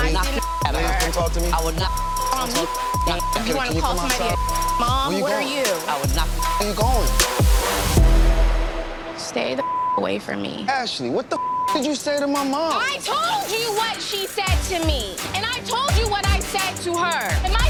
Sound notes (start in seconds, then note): 0.9 beeping; 3.0 beeping; 5.0 beeping; 7.1 beeping; 8.2 tense music; 11.3 beeping